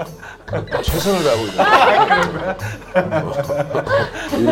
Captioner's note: laugh